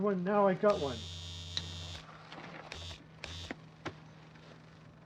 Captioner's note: trimmer buzzing